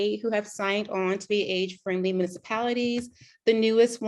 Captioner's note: none